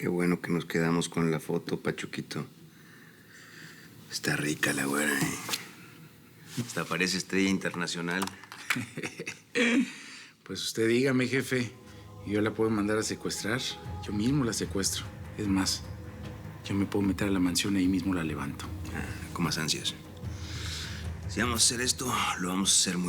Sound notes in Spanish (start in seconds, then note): 10.5 risas